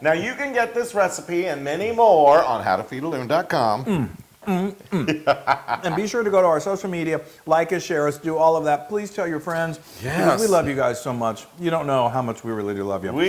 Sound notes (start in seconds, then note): 4.5 laugh